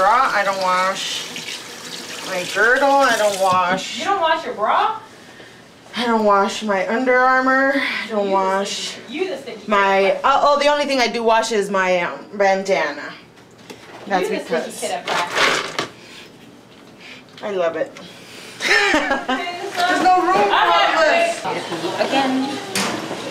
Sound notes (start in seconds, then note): 16.7 sniffs